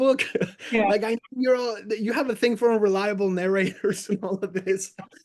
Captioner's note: laughs; laughs